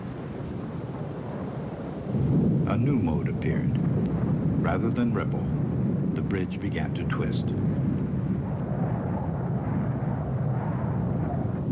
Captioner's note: wind blowing